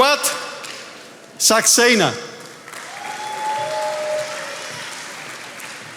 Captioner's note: attendees applauding